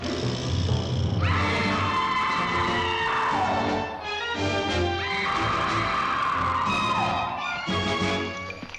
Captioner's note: suspenseful music; Nellie screams; tense music